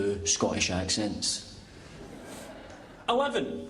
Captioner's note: laughter